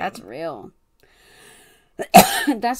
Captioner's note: coughs